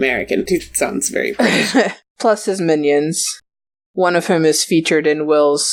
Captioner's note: laughs